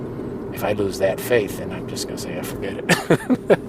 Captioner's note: laughs